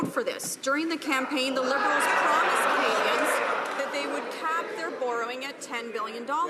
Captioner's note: some Applause